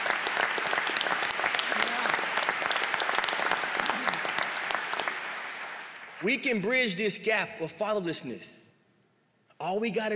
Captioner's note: applause